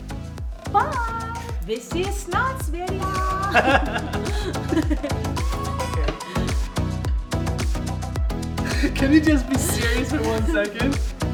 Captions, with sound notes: - Bye. (speaks foreign language) (upbeat music) - Can you be serious for one second?